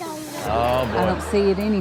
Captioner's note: audience laughing